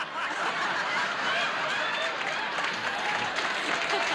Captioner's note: audience laughs and applauds